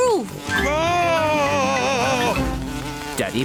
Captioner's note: screams